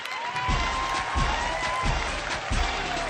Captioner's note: applause, theme music